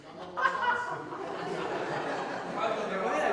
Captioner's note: he and the audience laugh; jokingly